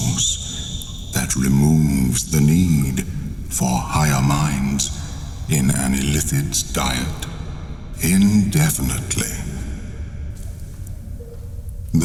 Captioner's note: cave noises